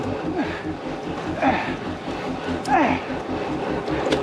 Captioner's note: grunting